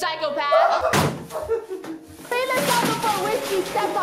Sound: things falling in the house

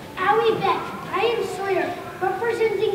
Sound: speaking in a foreign language

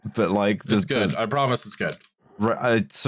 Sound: keyboard tapping

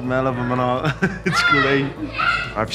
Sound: laughs

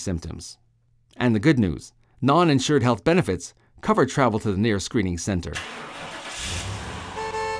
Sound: sound of car starting and horn honking

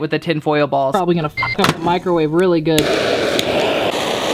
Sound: beep

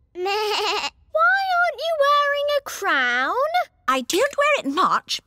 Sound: bleats

